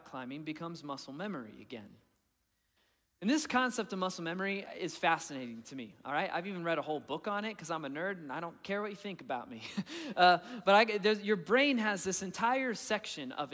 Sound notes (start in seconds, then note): 9.8 chuckling